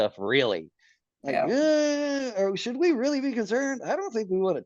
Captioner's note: laughs